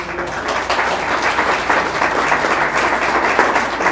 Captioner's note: audience applauds